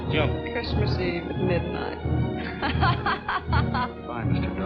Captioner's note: laughing